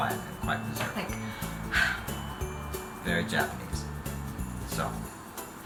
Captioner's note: Big sigh